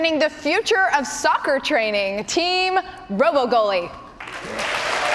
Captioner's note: cheers and applause